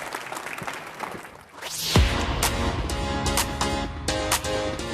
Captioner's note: applause